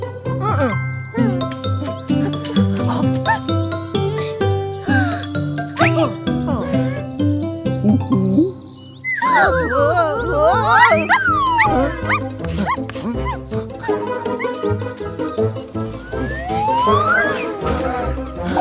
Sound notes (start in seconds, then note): 5.3 excitedly; 9.0 sound of the owl